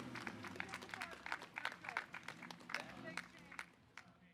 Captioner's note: audience applauding